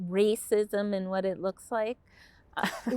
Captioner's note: chuckles